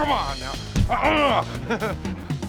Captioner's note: punching sound; laughs